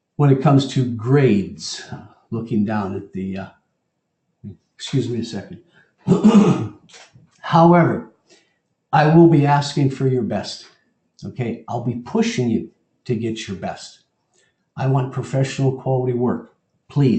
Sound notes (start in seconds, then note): 6.0 cough